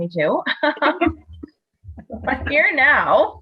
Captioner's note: all laughs